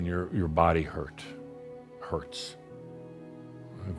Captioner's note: none